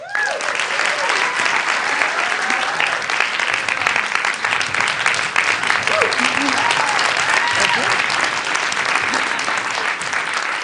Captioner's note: applause